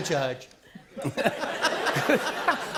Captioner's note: laughter